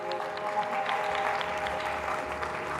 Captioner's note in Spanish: aplausos